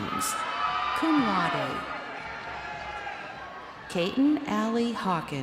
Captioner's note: crowd cheering